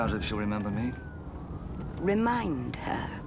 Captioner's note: sirens, car noise